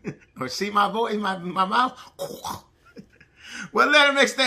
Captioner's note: chuckles